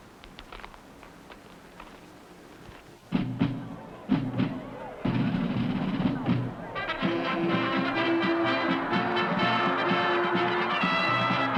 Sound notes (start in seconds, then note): 3.6 upbeat music; 3.6 audience cheering